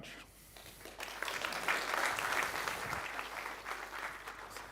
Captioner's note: audience applauding